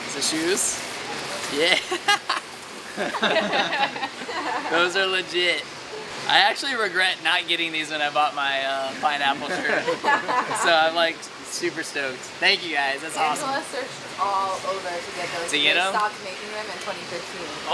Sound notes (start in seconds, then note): 2.7 people laugh; 2.8 laughs; 9.2 people laugh